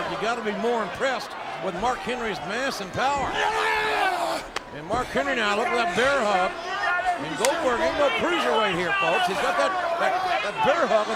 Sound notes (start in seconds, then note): 3.8 Goldberg grunting